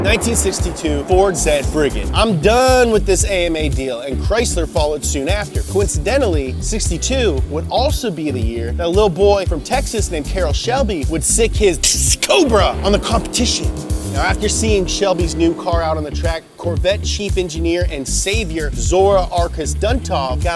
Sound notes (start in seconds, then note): 11.8 imitates snake